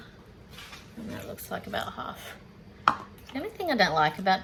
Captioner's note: cup thunks on counter